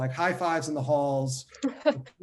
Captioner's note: laughter